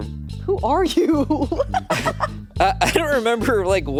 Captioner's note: laughs